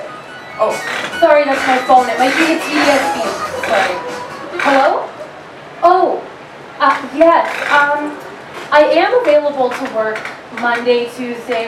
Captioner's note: phone rings